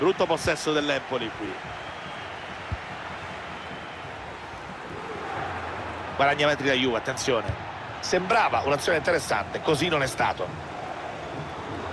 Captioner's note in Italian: Applauso